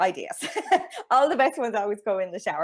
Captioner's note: chuckles